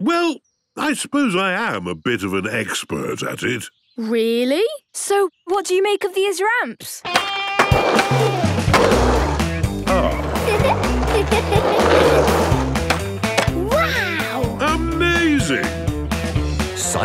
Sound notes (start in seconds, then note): 7.5 rock music; 9.8 giggles